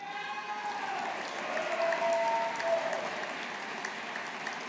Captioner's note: audience applauding